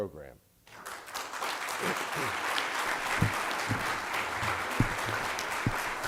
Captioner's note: applause